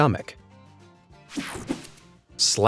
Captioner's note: graphics whoosh